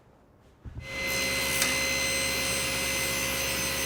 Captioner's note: whirring